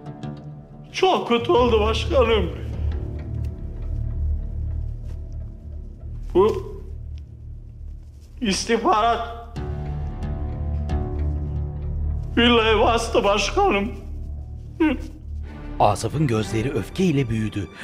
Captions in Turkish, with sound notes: Çok kötü oldu başkanım. Bu... ...istihbarat... ...villayı bastı başkanım. (Ağlama sesi)